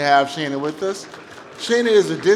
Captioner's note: applause